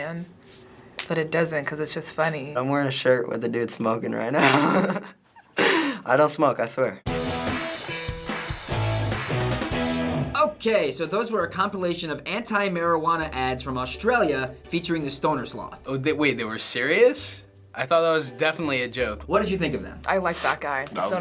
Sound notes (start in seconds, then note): 4.3 giggles; 7.0 punk rock music